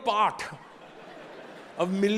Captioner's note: audience laughing